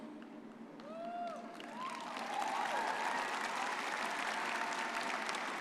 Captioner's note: crowd cheering